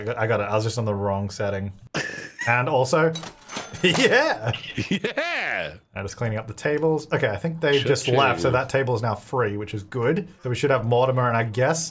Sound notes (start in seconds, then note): 2.2 laughing; 3.9 cash register dings